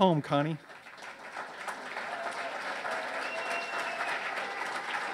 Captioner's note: audience cheers